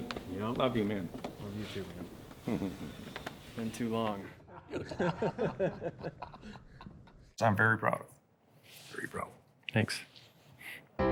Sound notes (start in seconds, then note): 2.4 laughing; 4.4 both laughing